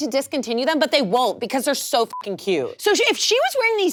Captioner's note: beep